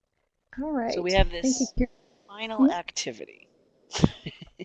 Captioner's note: giggles